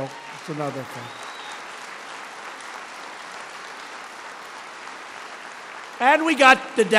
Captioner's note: applause